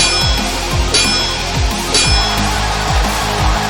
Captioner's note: heavy rock music; swords clanging; crowd cheering